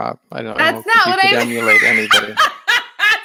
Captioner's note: laughs